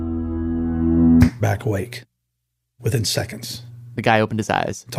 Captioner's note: snaps fingers